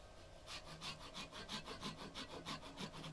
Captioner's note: sawing